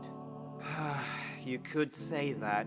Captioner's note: exhausted sigh